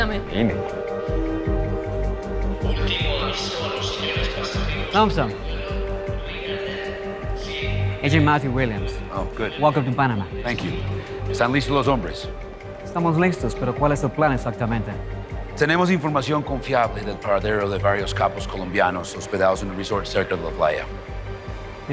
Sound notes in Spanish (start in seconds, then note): 2.6 Por altoparlante